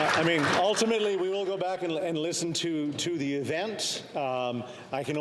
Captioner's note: some Applause